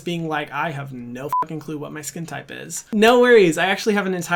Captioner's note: beep